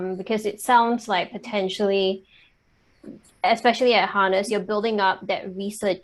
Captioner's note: none